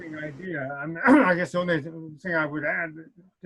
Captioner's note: clears throat